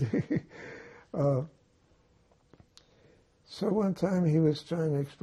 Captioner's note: laughing